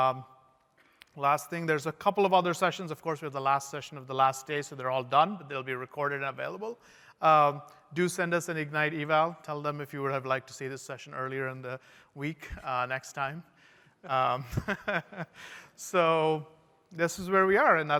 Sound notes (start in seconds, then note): 14.1 laughter